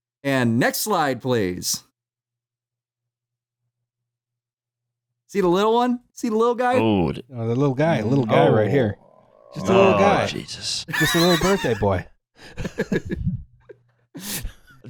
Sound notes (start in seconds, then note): 10.8 chuckles